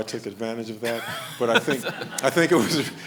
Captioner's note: laughs